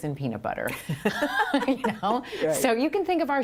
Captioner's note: laughter